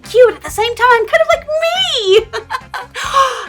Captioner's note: laughs